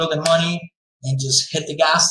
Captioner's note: slaps hands